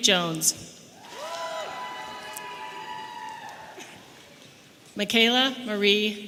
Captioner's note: audience applauding and cheering